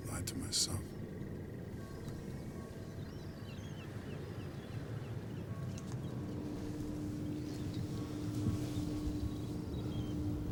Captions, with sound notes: lied to myself. (birds chirping) (bells toll distantly)